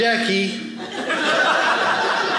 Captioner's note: audience laughing